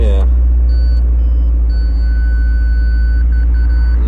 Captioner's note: beeps